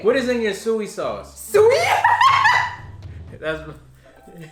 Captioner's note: laughs